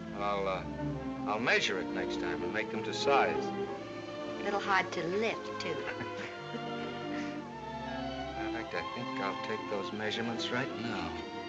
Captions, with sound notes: I'll, uh, I'll measure it next time and make them to size. A little hard to lift, too. [chuckling] Matter of fact, I think I'll take those measurements right now.